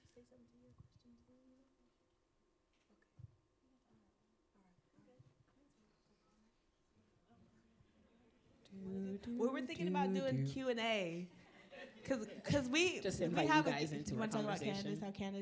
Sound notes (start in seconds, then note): 9.5 panelist humming